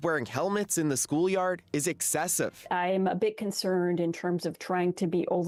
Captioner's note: speaking French